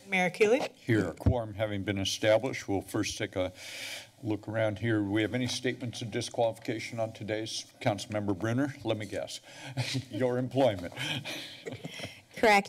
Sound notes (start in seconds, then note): 10.6 chuckles; 10.9 laughs